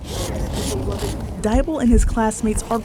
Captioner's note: chalk scraping